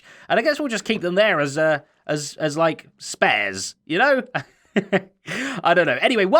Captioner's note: chuckles